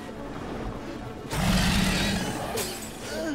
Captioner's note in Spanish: Rugido; Gruñidos